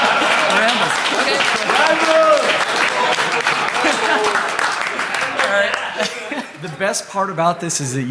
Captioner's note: laughter